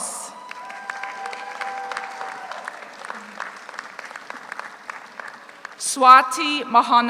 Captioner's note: audience cheers; audience applauds